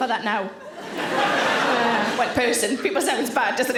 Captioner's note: audience laughing